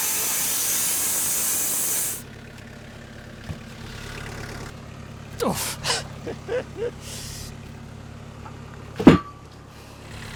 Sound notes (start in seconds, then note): 3.7 engine revving; 5.4 laughs